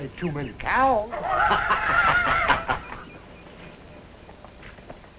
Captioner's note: laughter